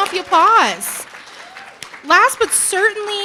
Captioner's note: audience cheering and applauding